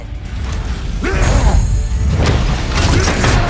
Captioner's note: growls angrily